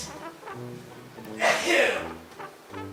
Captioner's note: dad sneeze